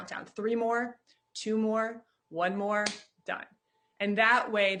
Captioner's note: claps